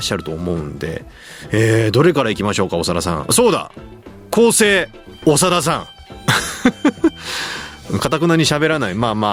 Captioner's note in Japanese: 笑い